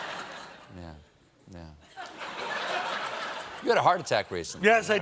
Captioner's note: laughter